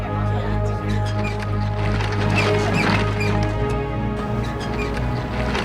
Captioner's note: trolley squeaks